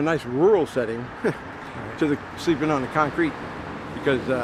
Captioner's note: chuckling